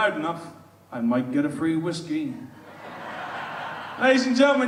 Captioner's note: audience laughs